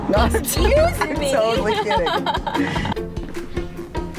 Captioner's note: laughs